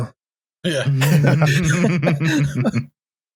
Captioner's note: laughter